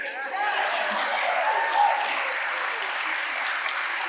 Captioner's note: audience applauding